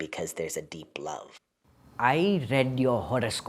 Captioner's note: soundbite of archived recording